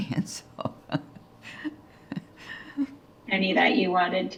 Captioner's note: laughing